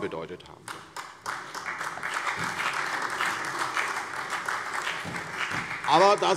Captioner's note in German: Beifall